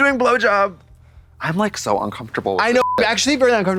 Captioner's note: beep